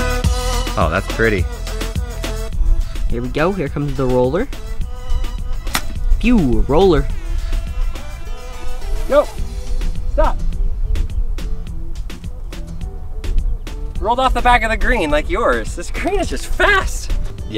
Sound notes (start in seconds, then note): 5.5 soft popping noise